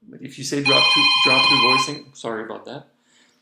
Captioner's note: telephone ringing